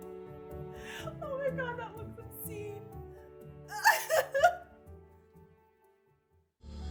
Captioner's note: laughs